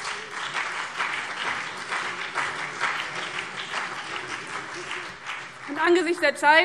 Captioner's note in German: Beifall BÜNDNIS 90/DIE GRÜNEN und vereinzelt CDU